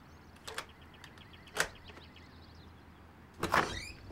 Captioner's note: lock clicks